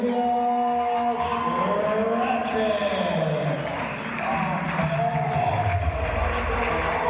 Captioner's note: applause and cheers